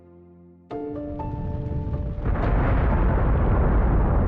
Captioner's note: rumbling